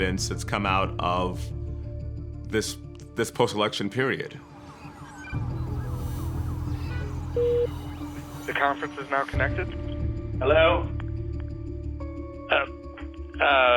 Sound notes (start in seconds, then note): 4.4 electronic beeping, indistinct chatter; 7.0 connecting tone